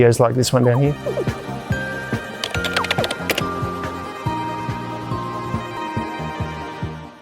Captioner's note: keyboard clicking; upbeat music